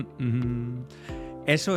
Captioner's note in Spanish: Tarareo de canción